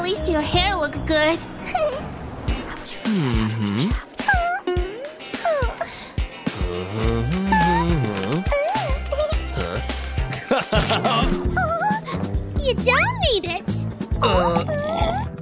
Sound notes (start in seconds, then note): 0.1 yawns; 2.2 singing; 6.5 puffs; 6.9 laughing